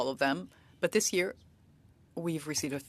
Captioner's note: speaking French